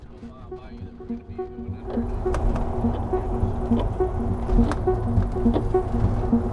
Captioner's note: calm music; engine whirring